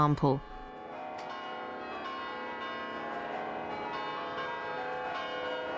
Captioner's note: church bells pealing